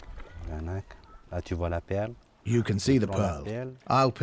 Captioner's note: speaking French